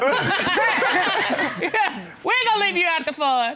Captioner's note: all laugh